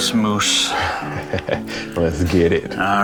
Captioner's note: chuckles